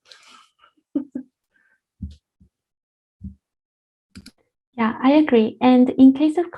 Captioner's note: laugh